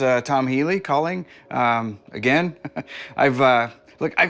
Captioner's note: laughs